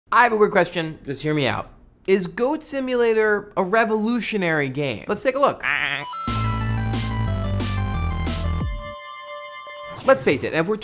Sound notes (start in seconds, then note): 6.3 goat noise